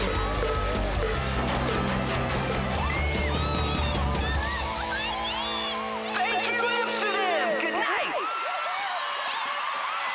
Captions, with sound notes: [cheering] Thank you, Amsterdam! Good night!